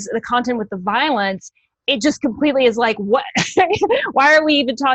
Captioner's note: chuckles